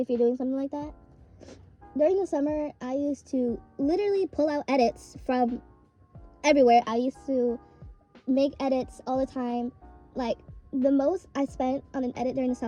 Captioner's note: sniffle